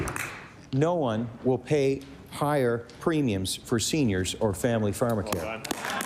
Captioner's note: applause